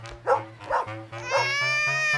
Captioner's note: baby crying